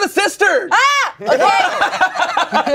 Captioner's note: yells; everyone laughs